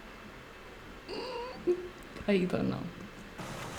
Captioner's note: cries